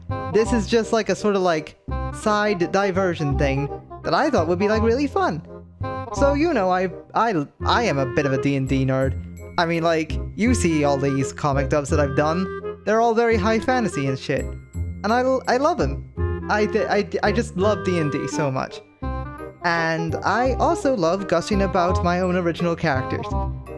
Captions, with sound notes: This is just like- a sort of- like... ...side, diversion, thing. That I thought would be, like, really fun! So you know I- I l- I am a bit of a D&D nerd. I mean like... You see all these comic dubs that I've done. They're all very high fantasy and shit. And I l- I love them! I- (stammers)- I just love D&D so much. And I also love gushing about my own original characters.